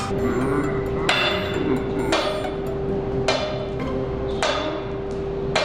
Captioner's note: steel clanging in slow motion